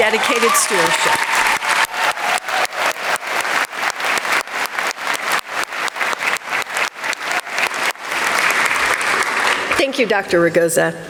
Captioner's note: applause